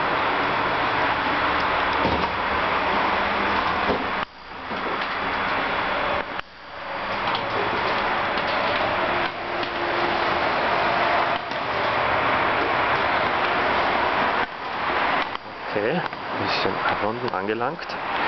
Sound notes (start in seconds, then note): 6.4 loud noise from the motorway